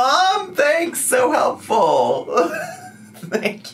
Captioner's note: laughs